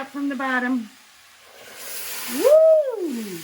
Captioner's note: pan sizzles